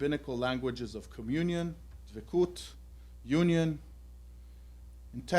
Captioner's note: non-english